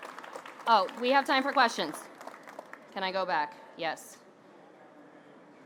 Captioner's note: ap plause